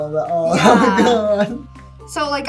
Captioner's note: laughs